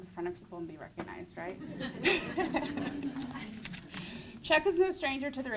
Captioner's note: crowd laughter